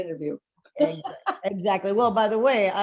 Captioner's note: laughing